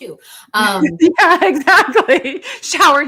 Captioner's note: laughs